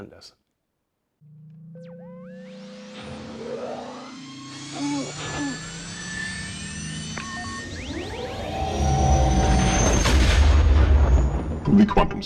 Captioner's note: Millennium Falcon engine sounds